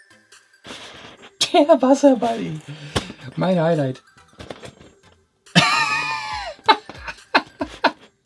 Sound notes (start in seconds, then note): 5.5 laughing